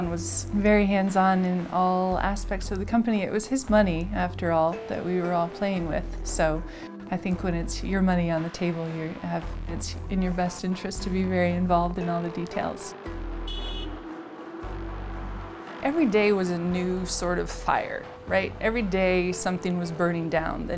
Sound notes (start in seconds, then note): 13.4 car honks